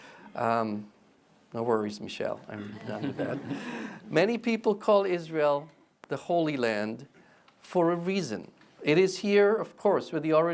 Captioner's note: people laugh